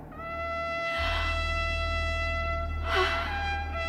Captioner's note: mysterious music; sighs deeply